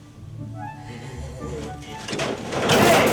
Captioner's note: nervous laugh